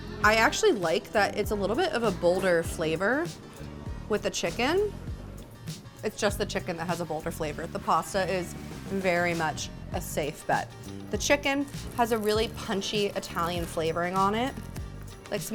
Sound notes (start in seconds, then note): none